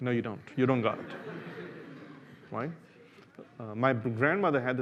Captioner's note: laughter